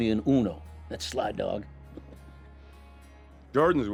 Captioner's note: chuckles